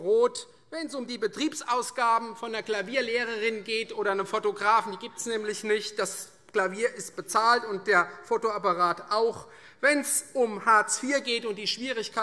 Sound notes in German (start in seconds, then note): none